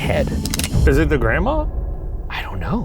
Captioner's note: gun clicking